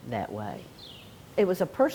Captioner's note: birds chirping